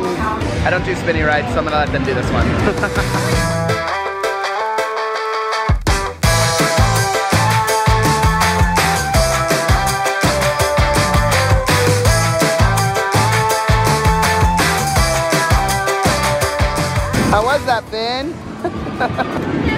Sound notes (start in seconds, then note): 2.6 laughs; 3.3 upbeat music; 18.6 laughs